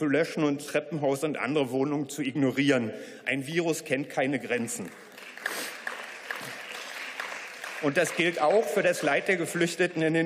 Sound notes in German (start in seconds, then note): 4.4 Beifall